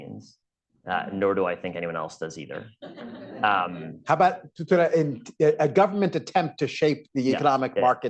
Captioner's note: laughter